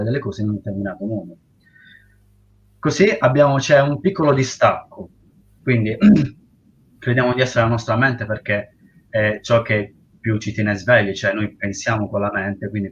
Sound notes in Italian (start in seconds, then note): 6.0 schiarire la voce